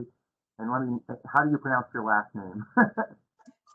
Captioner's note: laughter